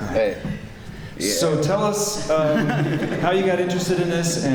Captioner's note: laughter